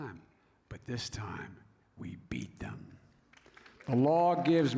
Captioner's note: applause